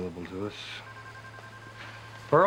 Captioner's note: phone ringing